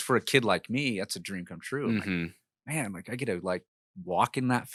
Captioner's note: speaking foreign language